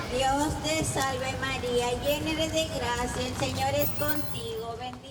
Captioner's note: praying in foreign language